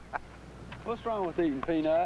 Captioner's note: Buddy laughing